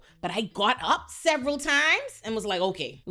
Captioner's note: none